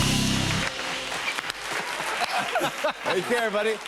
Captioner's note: laughter